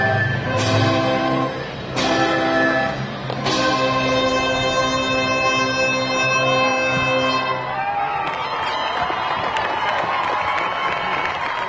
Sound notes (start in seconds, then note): 7.6 audience cheering; 8.1 audience clapping